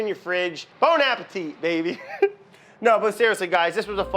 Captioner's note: laughs